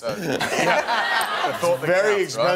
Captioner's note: laughing